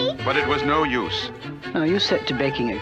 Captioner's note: none